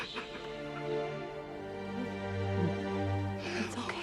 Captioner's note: sobbing